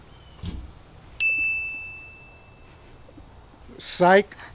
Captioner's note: bell chiming